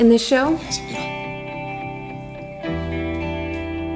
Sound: speaking in foreign language; light dramatic music

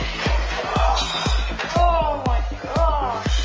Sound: groans

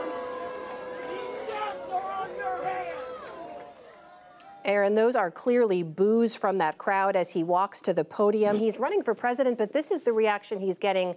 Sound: crowd brewing

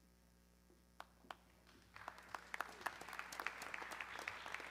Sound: audience clapping

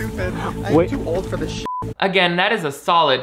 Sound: beep

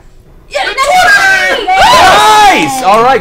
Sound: all cheer

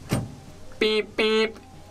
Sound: mean BMP honks

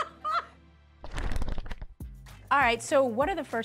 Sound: Tia laughing; pages fluttering

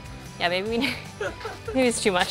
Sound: chuckle

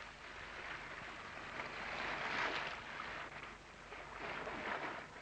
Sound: waves lapping

